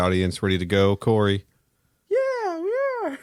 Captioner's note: tiny voice